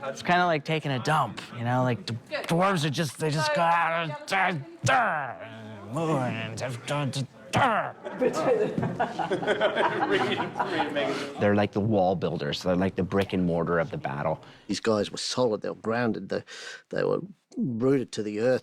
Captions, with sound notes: It's kind of like taking a dump, you know, like, the Dwarves are just, they just: [GRUNTING] [ALL CHUCKLING] They're like the wall builders, like the brick and mortar of the battle. These guys were solid, they're grounded, they were rooted to the earth.